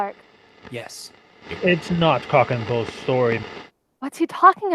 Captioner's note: recording on radio